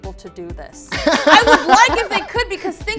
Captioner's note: laughs